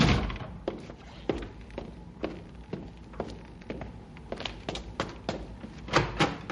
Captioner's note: footsteps